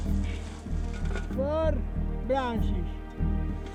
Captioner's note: man shouting